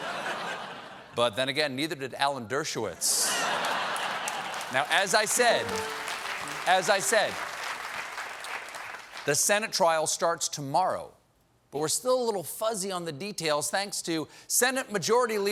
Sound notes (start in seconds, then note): 3.1 laughter; 3.6 applause; 5.6 piano riff